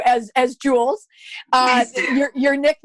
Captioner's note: laughter